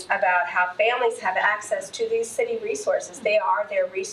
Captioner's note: none